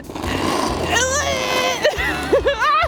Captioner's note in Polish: odgłosy znów i śmiech